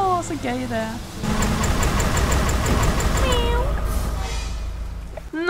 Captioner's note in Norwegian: Lyd av ødelagt motor